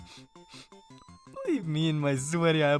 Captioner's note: sniffsniff